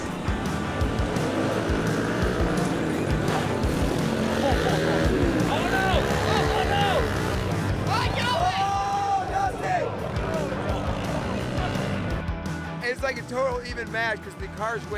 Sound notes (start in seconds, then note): 0.0 motors revving; 6.4 crowd exclaiming